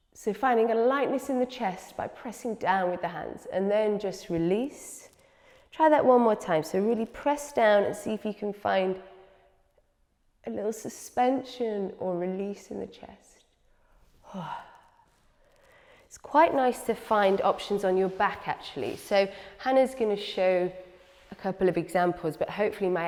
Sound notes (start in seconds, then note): 15.5 exhales